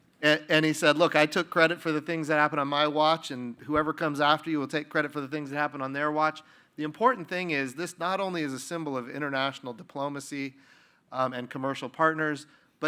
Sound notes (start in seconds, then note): none